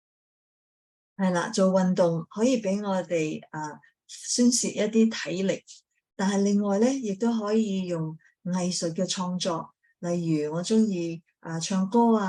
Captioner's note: speaking chinese